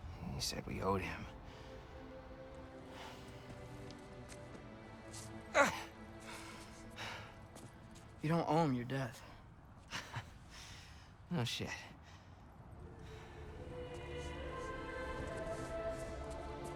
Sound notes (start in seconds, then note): 9.9 laugh